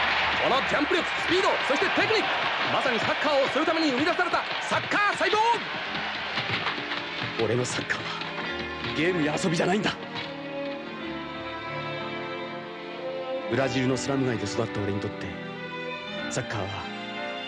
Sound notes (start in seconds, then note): 5.8 applause